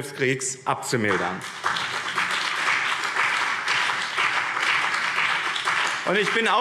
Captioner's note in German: Beifall BÜNDNIS 90/DIE GRÜNEN und CDU